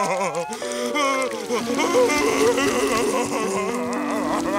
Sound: crying

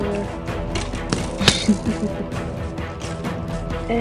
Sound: laughs

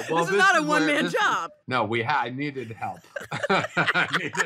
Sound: laughing

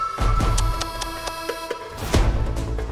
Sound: clicks tongue

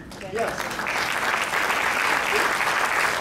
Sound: crowd clapping

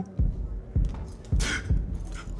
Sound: sobs

